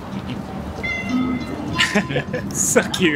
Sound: cat meows; chuckles

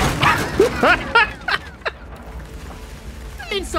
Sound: laughs

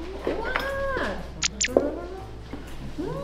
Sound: slurp

